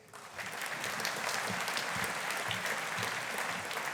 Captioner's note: audience applauding